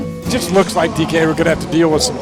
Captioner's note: voiceover